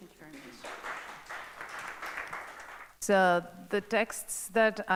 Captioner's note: audience applauds